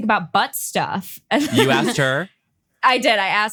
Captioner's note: laughs